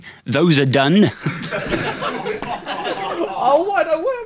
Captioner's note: audience laughing